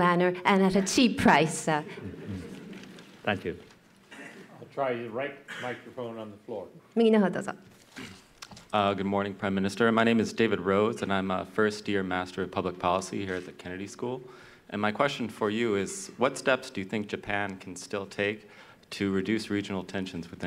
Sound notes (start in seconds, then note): 7.2 speaking japanese